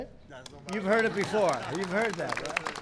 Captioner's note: laughter and applause